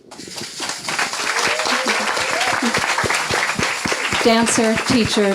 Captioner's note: audience clapping